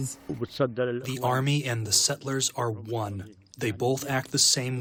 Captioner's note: through translator